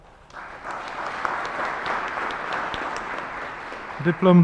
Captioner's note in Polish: oklaski